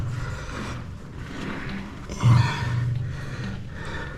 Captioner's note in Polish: parsknięcie